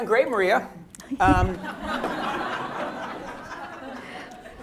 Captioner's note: laughter